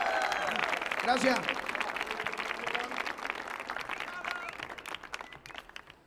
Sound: audience cheers; audience claps; man speaking in Spanish

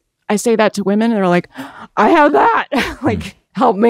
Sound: gasps

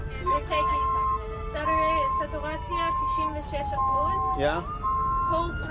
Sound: medic speaking foreign language

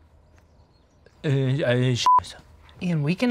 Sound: beep

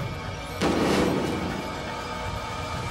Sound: gunshots

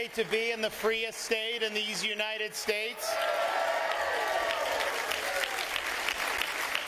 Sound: applause

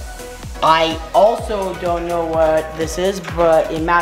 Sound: grunts

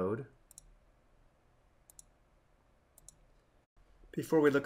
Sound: mouse clicking

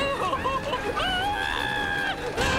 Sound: screaming

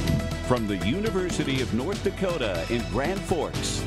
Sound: voiceover

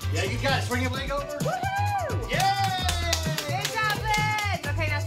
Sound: clapping

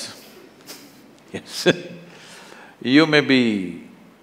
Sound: laughs

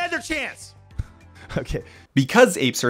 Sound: laugh

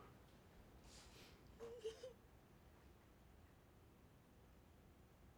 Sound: crying

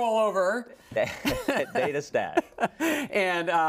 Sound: laugh

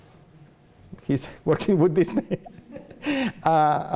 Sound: laughs

